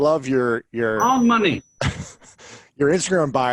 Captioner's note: bell rings